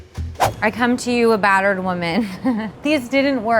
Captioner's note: chuckles